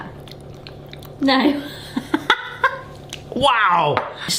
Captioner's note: laughs